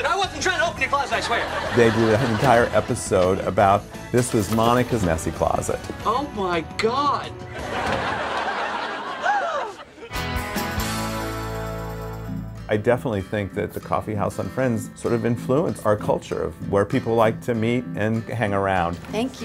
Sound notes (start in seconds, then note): 7.5 laughter; 9.2 gasps